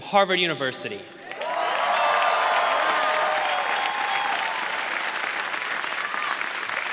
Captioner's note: audience applauding and cheering